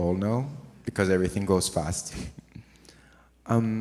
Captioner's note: chuckles